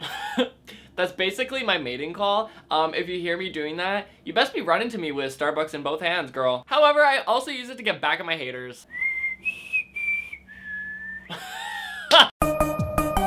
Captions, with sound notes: That's basically my mating call umm if you hear me doing that you best be running to me with starbucks in both hands girl However, I also use it to get back at my haters [whistles] [laughs] [theme music]